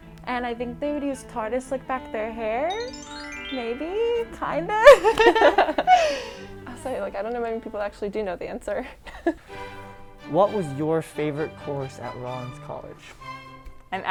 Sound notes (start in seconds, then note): 4.9 laughs